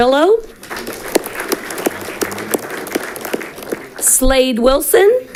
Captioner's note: audience clapping